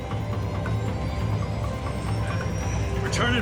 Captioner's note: engine whines